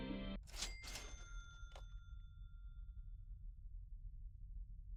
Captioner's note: cash register dings